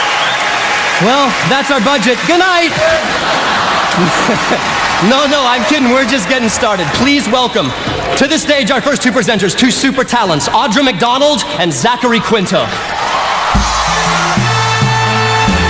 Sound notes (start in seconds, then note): 2.8 laughter; 12.8 applause